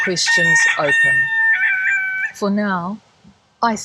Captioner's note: rooster crowing